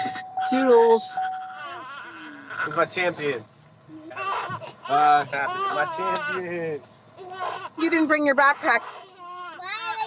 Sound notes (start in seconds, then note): 0.0 car alarm; 4.3 crying